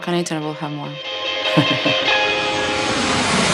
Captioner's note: laughs